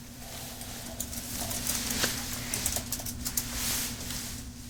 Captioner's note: keyboard clicking